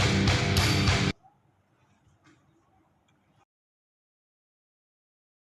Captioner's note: silence